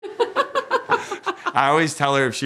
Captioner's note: laughs